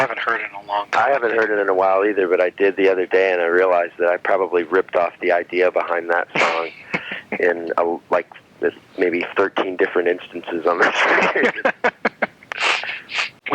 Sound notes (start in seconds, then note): 6.2 laughing; 10.6 laughing